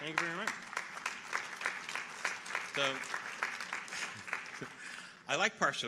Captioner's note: audience applauding